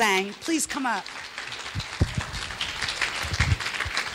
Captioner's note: clapping